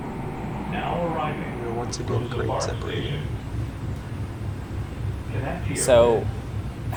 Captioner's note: pa system